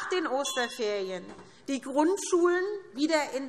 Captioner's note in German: Anhaltende Unruhe – Glockenzeichen